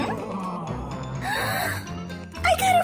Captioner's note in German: Bluey schnappt nach Luft